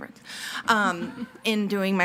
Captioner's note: people laughing